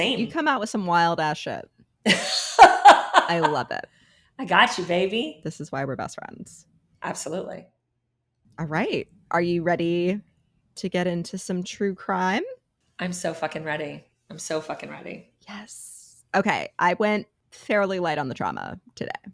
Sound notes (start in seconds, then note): 2.1 laughing